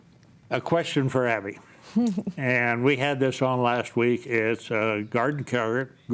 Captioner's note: chuckles